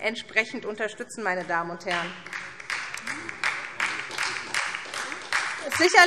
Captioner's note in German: Beifall SPD